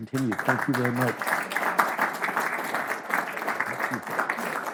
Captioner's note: audience clapping